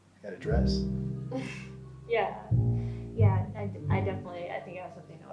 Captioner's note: chuckles